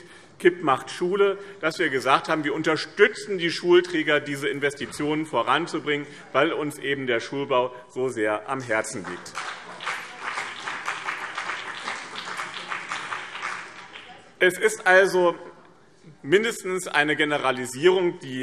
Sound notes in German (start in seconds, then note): 8.9 Beifall BÜNDNIS 90/DIE GRÜNEN und CDU